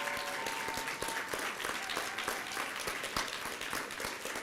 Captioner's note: applause